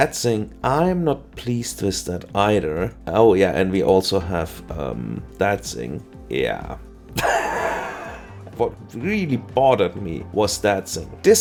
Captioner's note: laugther